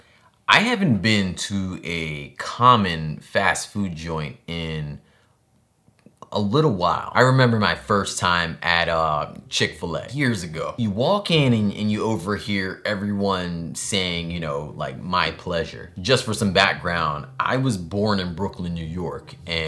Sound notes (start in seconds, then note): none